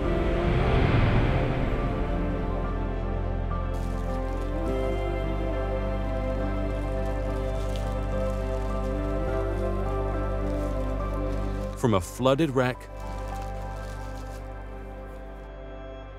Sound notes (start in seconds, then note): 0.1 transition whooshing; 2.6 gentle music continues; 4.2 plastic rustling; 13.3 plastic rustling